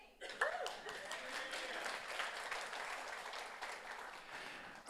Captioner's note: audience applauds